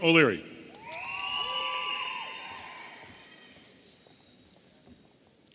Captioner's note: audience cheering